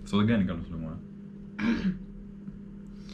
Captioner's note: clearing throat